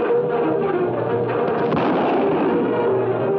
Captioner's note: gun firing